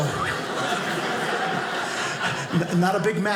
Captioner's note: audience laughing